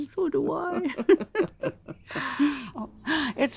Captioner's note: both laughing